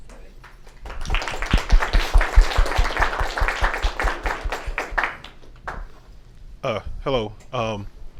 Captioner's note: applause